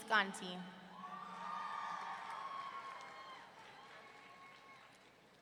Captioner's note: audience cheering